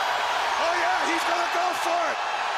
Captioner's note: crowd cheering